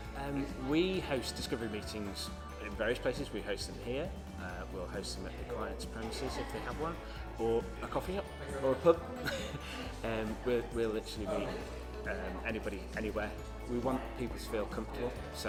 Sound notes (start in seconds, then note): 9.1 laughs